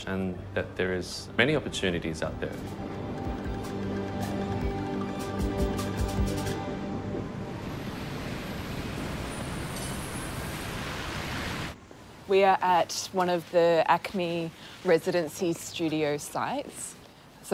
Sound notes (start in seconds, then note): 3.8 upbeat music; 9.1 traffic murmuring